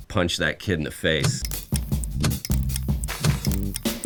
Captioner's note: ticking